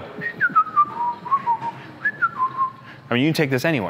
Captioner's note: whistling